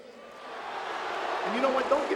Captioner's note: audience booing